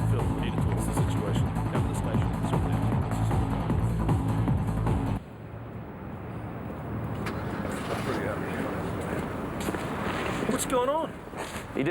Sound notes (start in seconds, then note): 2.2 faintly speaking